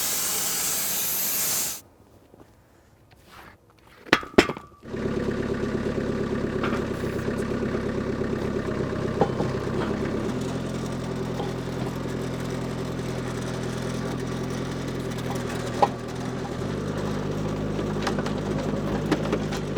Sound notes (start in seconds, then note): 4.1 wood clunking; 5.4 engine roaring; 8.3 wood clunking